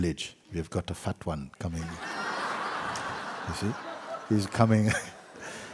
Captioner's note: laughter